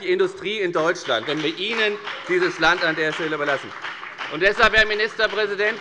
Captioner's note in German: Beifall bei der FDP